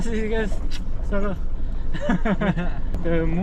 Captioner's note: haha